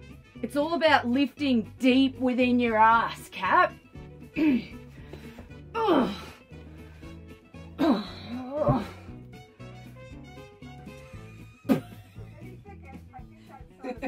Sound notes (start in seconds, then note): 4.4 clears throat; 5.6 strains; 11.6 laugh